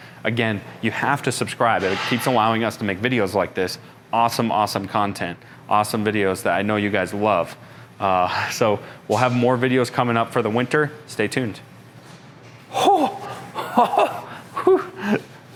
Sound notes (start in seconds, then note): 12.7 chuckling